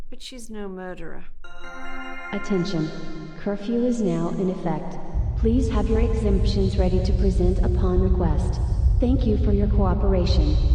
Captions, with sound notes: but she's no murderer. (PA system chimes) - Attention. Curfew is now in effect. Please have your exemptions ready to present upon request. Thank you for your cooperation.